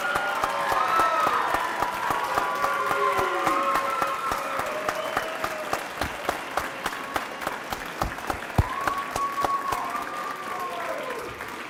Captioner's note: cheering and applause